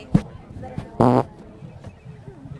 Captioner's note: fart noise